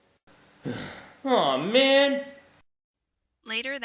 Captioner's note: groans